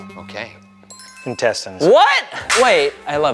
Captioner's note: bell chiming